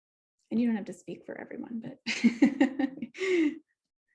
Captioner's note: laughs